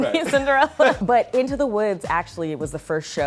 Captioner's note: laughs